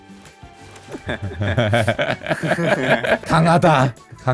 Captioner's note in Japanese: げらげら